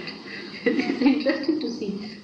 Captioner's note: Shri Mataji laughs